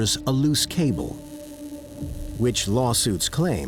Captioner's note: dramatic ominous music; electricity buzzing